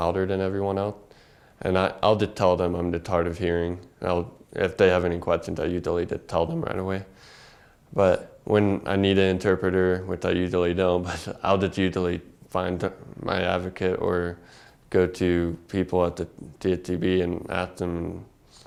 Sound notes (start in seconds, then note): 11.6 laugh